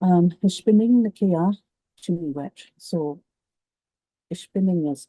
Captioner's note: speaks in Cree